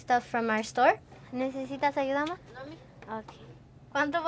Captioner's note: speaking Spanish